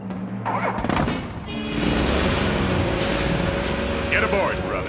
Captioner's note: engine starting